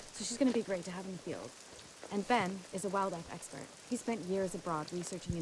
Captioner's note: none